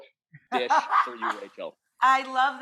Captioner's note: Rachael laughing